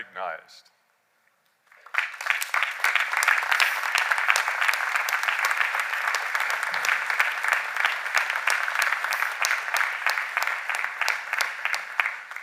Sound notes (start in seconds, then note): 5.3 cheers and applause